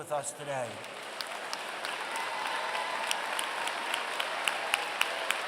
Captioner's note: applause